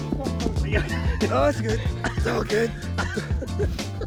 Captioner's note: laughing